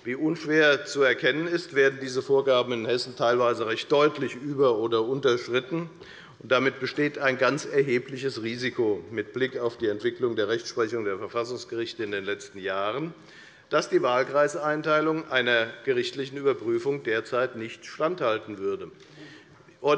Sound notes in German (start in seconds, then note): none